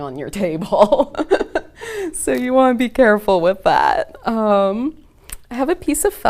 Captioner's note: laughs